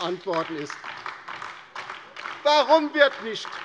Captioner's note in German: Beifall DIE LINKE